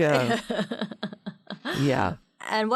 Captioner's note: laughing